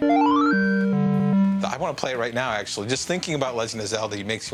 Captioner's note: arcade sounds